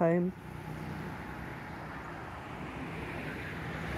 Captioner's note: traffic